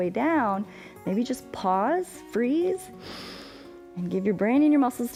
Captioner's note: inhales